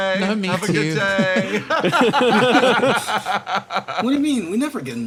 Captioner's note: laughs